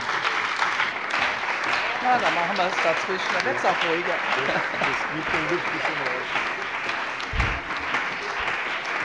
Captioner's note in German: Beifall bei dem BÜNDNIS 90/DIE GRÜNEN und der CDU